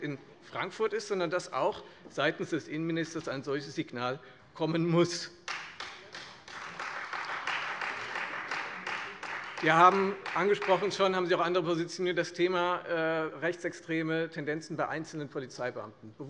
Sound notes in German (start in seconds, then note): 5.4 Beifall Freie Demokraten